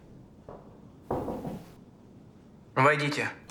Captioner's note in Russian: стук в дверь